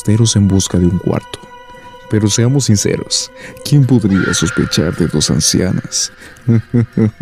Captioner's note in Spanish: risa malvada